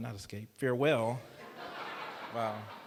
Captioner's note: laughter